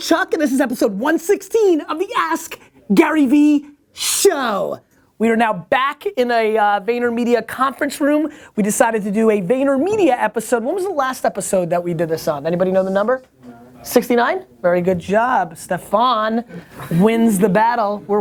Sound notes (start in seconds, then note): 13.5 voiceover